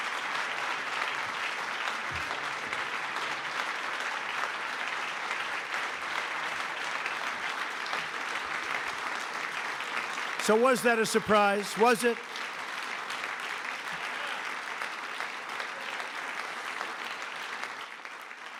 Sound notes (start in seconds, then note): 5.7 applause